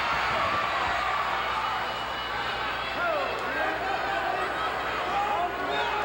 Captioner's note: audience cheering continues